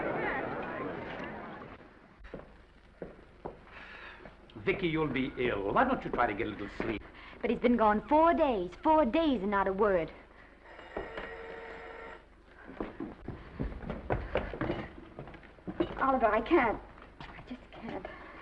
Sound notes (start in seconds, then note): 10.6 phone ringing; 12.4 footsteps approaching